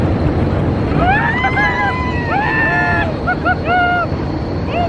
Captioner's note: all screaming and laughing